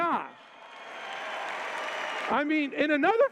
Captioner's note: cheers